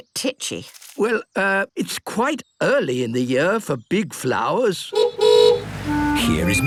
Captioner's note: honking